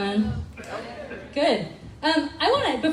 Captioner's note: crowd